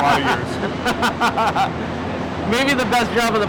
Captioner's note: laughs